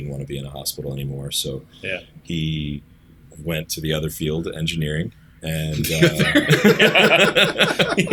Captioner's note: laughter